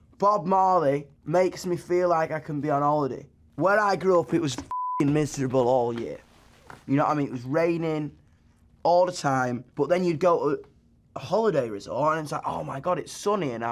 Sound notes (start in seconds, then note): 4.6 beep